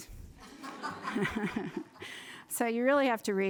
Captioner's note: group laughter